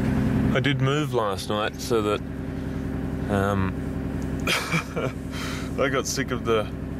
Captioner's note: laugh